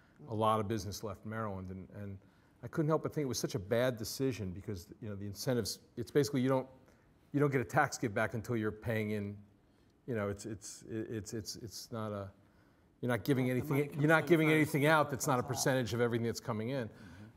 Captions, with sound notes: a lot of business left Maryland. And I couldn't help but think it was such a bad decision, because the incentives... It's basically, you don't get a tax get-back until you're paying in... (STAMMERING) You're not giving anything out that's not a percentage of everything that's coming in.